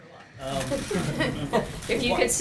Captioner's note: laughter